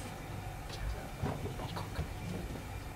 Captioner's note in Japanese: 小声